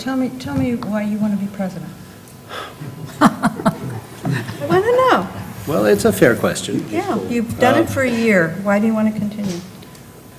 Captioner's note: laugh